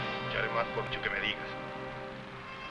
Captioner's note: dramatic music; people chattering; somber music